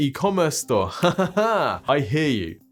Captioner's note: giggles